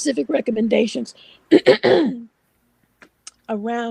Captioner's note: clearing throat